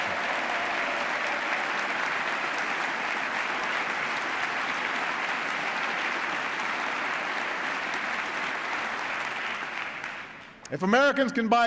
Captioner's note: applause